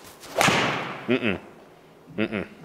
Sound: ball thuds

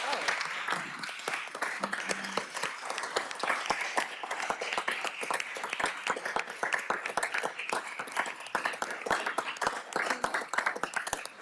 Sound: applause

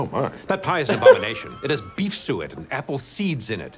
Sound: laughs

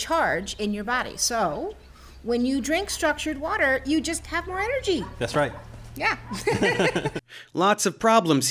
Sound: idiots laughing

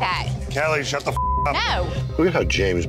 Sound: beeping

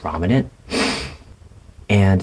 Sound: sniff

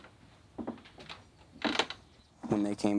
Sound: chair creaking

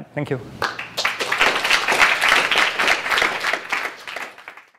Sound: applause

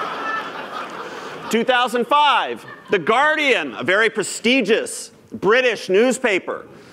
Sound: laughter

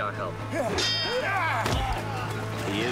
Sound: metal clanging

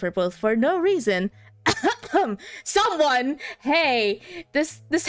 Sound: cough cough

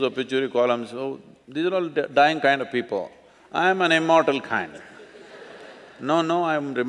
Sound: laughter

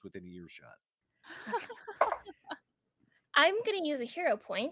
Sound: laughing

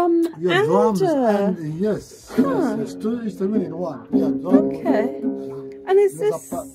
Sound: huh

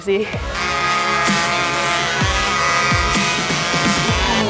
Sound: chainsaw roaring

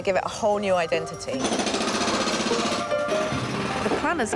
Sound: machine whirring

